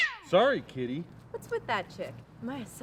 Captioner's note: cat meowing